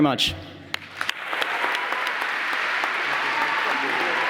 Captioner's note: applause